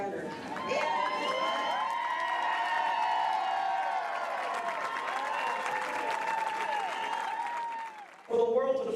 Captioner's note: cheers and applause